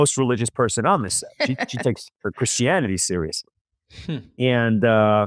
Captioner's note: laughs